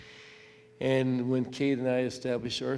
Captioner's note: none